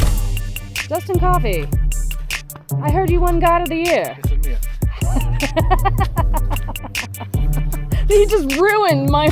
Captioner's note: laughing